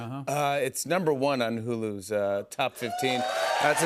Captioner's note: cheers and applause